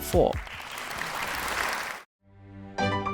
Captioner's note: applause